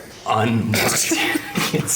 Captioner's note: laughter